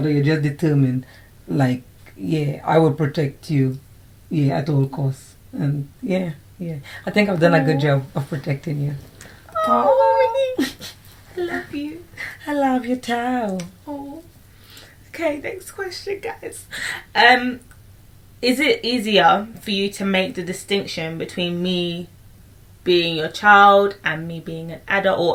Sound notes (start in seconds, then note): 10.5 laughter